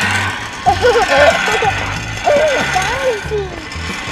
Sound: giggling

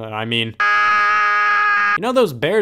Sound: screams

